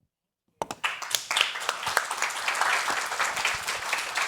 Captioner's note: all clapping